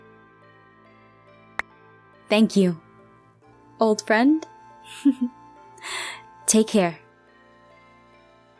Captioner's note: laughing